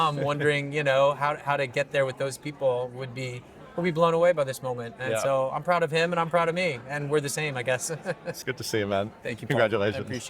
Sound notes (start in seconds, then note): 7.9 chuckling